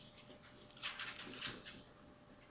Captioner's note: papers shuffle